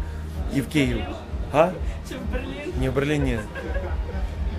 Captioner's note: laughs